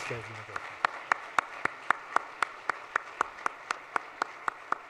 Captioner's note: audience applauds